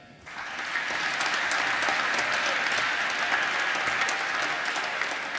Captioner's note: applause